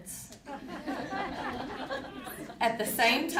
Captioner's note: audience laughing